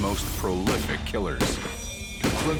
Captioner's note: gun shots